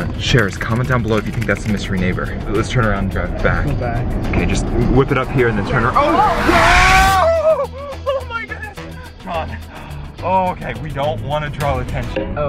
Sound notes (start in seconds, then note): 5.7 tires squealing